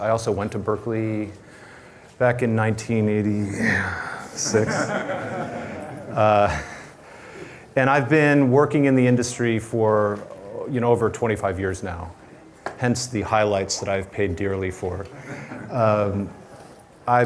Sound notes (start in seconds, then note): 4.4 laughter